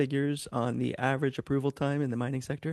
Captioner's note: speaking in French